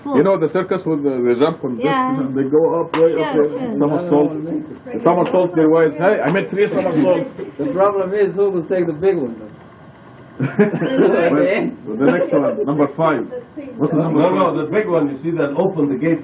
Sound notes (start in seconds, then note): 10.4 laughter